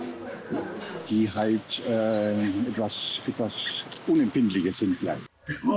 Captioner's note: speaking German